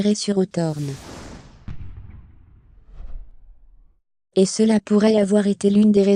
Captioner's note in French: whooshing; musique dramatique